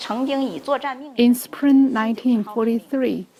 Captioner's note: speaking foreign language